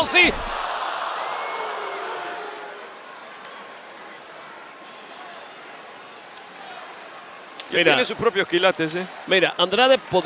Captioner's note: applause